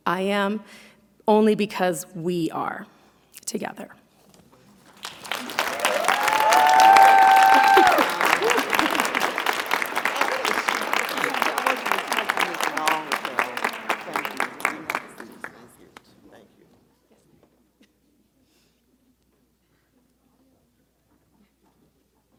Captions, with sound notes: I am only because we are together. (audience clapping)